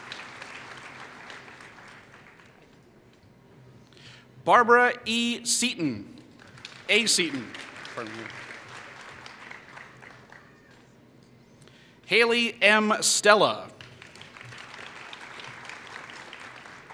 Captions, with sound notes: Barbara A. Seatin [Applause] Hailey M. Stela [Applause]